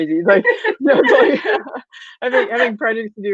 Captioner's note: laughing